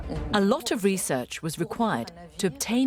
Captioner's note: voiceover